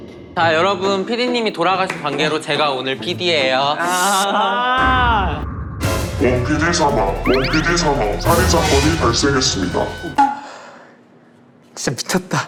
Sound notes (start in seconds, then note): 10.4 sigh